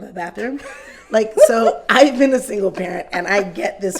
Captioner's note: laughs